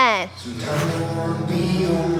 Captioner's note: swoosh